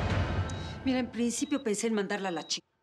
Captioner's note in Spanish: Sonido de un monitor